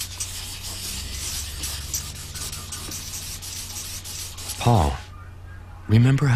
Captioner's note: markers scribbling